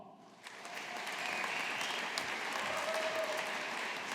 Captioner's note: audience applauding